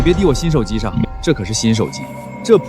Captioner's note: beep